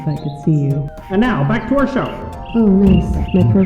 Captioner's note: tv voice